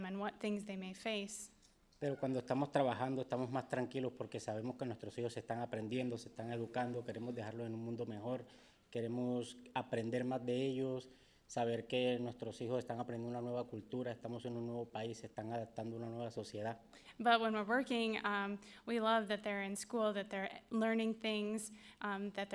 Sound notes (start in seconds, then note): 2.2 speaking in foreign language